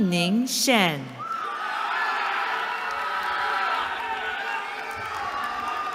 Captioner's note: cheering